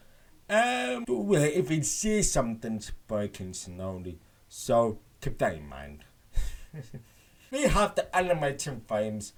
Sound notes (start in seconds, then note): 6.4 nervous chuckling